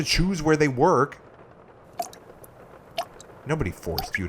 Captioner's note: sound of dripping water in a bucket